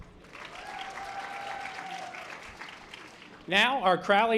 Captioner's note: audience applause